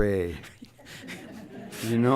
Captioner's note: laughter